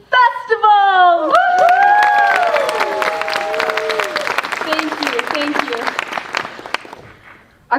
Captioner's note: applause